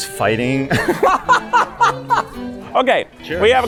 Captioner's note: laughs